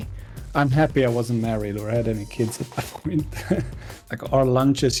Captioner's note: small laugh